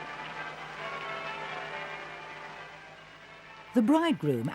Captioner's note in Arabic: أصوات أجراس